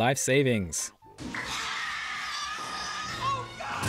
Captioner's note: bodysnatcher screams